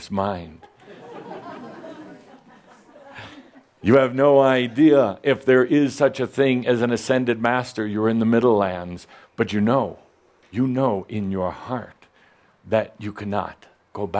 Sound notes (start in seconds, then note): 1.5 some chuckles